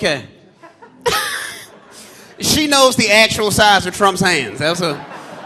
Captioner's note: laughs